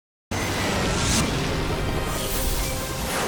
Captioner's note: logo squishes; upbeat music